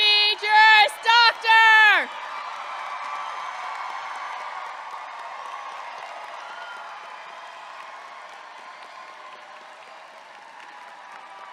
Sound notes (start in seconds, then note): 2.5 audience clapping and cheering